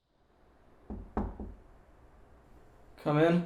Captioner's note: knocking at door